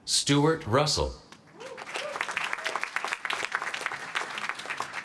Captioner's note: applause